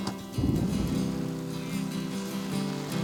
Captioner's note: thunder, rain falling